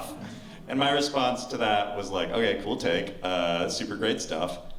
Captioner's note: none